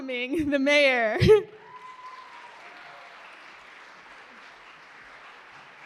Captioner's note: applause